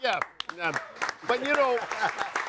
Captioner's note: audience applauding